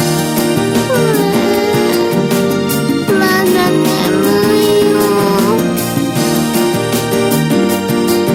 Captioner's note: yawning